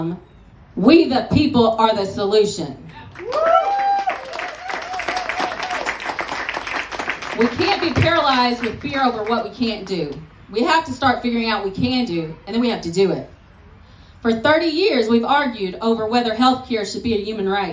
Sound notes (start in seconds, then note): 2.9 applause